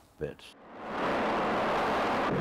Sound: plane engine roaring

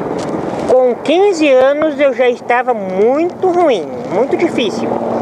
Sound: speaking Portuguese

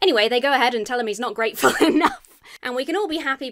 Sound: laughs

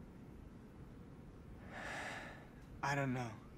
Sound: sighing

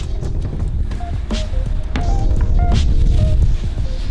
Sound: wind blowing

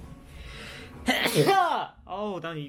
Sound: sneezed

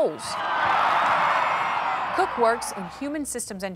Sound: crowd cheering

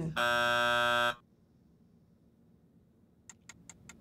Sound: timer buzzing

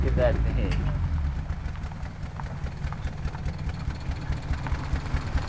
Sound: engine rumbling

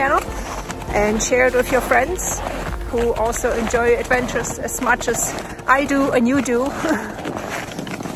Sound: laughs

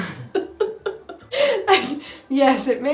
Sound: laughing

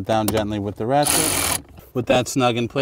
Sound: ratchet whirling

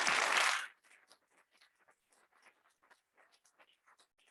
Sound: audience clapping

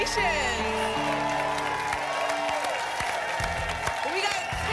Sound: applause and cheering

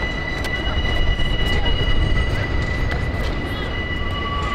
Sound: subway train brakes

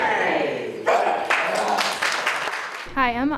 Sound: applause

